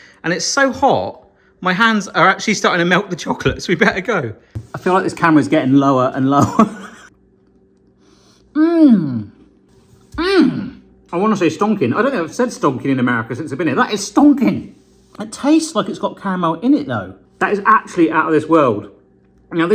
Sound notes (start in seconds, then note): 6.4 chuckling